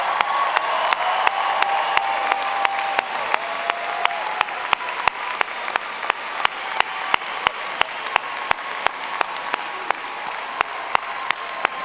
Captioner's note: cheers and applause